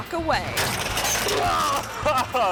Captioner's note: bike smashes; moans; laughs